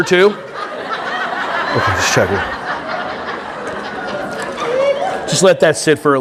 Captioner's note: audience laughing